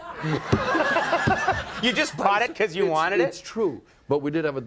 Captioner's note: laughs